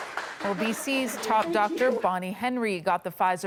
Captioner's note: applause